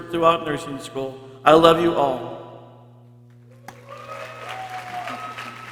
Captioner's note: people cheering